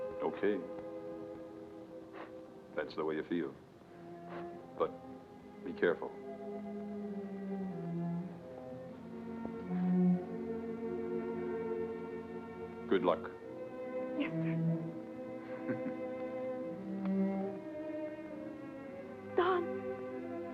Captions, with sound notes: - Okay. If that's the way you feel. But, be careful. (gentle somber music) Good luck. - Yes, sir. (Don chuckles) Don.